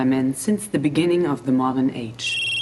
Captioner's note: Телефонни пръстени